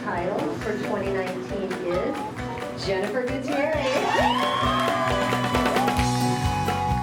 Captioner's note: audience applauding